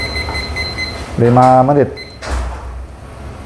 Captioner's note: beeping sound